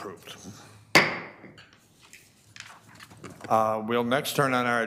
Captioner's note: gavel pounding